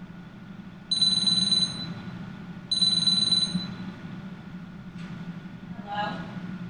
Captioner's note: phone ringing